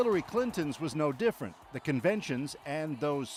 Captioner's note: cheers and Applause